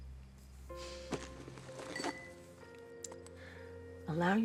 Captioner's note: somber music; crystals clinking